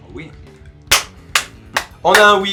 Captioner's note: clapping